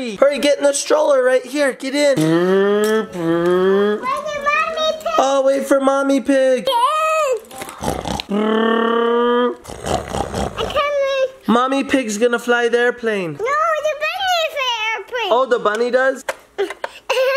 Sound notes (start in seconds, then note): 2.6 engine sounds with mouth; 8.1 engine noises with mouth; 9.6 oinking